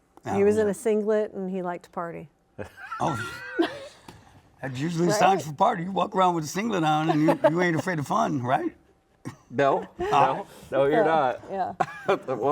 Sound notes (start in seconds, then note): 2.6 laughs